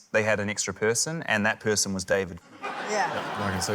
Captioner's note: laughter